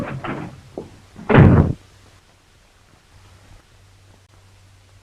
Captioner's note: door slams